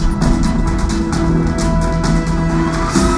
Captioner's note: siren wailing